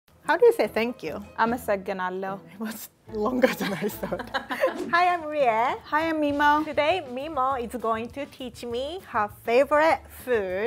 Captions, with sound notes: - How do you say thank you? (speaking in Amharic) - It's longer than I thought. Hi, I'm Rie. - Hi I'm Mimo. - Today Mimo is going to teach me her favorite food,